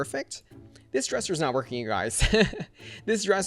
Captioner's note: laughs